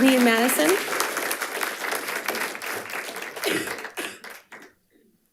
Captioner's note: audience applauding